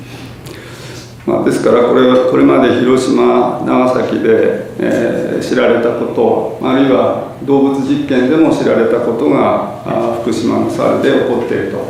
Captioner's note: japanese